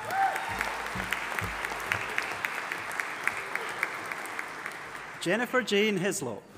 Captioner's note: audience applauding and cheering